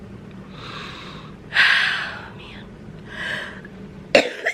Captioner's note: breathes deeply; coughing